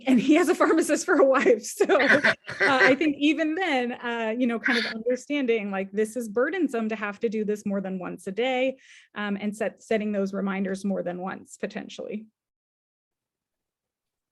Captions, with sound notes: and he has a pharmacist for a wife. (laughing) So I think even then, kind of understanding this is burdensome to have to do this more than once a day and setting those reminders more than once, potentially.